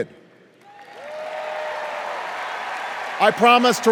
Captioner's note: cheers and applause